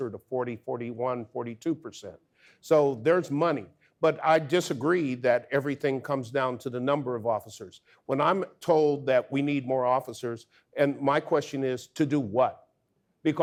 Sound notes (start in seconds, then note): none